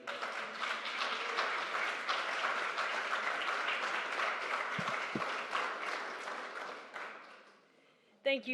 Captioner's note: applause